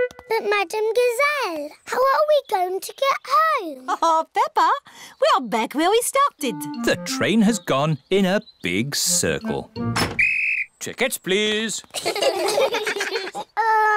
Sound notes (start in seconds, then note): 10.0 blows whistle; 11.9 all laugh